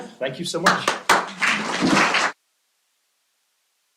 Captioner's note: applause